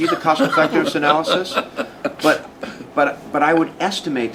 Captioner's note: laughs